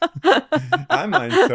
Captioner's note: laughing